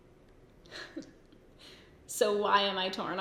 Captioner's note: giggles